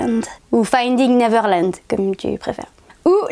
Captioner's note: with a French accent